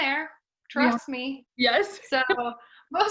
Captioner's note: laughs